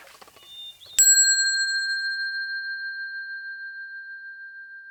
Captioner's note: bell ringing